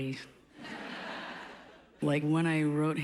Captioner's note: laughs